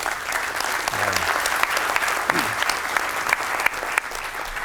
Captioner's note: applause